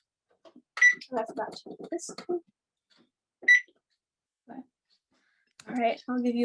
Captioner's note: oven beeps